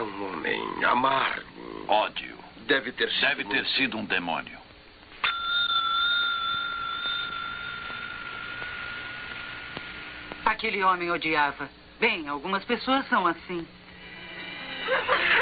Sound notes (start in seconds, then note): 5.2 bell ringing